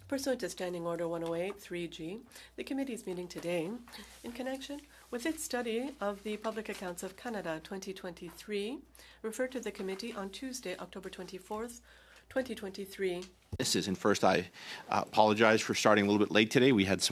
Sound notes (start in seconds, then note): 2.7 speaking French